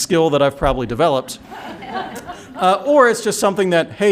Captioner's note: laughter